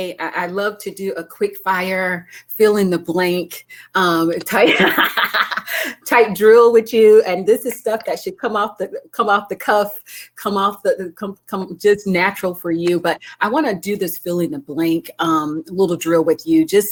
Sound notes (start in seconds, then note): 4.5 laughing